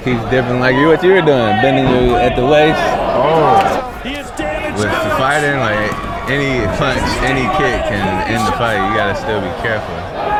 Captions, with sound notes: he's definitely like what you're doing, bending at the waist. - Oh. (Announcer speaking) - With the fighting like, any punch, any kick in the fight you gotta still be careful.